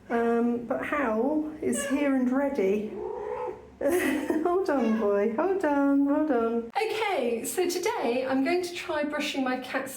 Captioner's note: meow